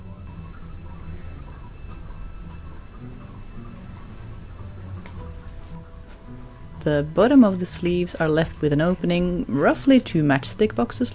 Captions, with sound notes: [Rain tinkling outside] [Snip] The bottom of the sleeves are left with an opening roughly two matchstick boxes